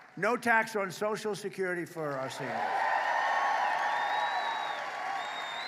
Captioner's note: applause